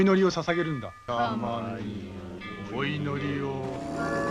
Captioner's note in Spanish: personas canturreando